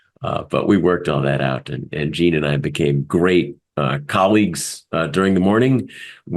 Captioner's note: laugh